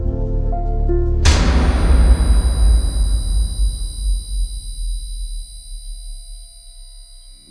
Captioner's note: somber music; piercing hum; gun bangs